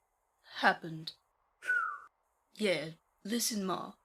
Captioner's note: Marlene whistles